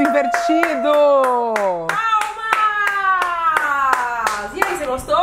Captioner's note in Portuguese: palmas